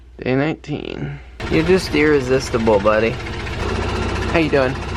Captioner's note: vest making noise in background